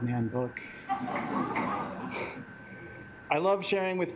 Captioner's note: assembly laughing